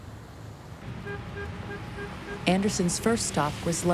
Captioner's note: horn honking